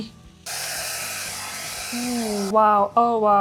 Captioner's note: blower blows